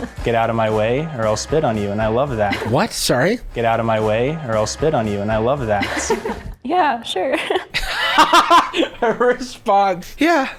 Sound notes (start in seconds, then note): 7.6 chuckling; 7.7 laughing